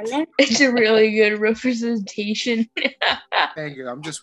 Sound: laughs

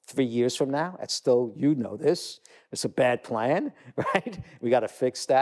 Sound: laugh

